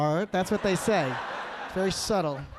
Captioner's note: audience laughing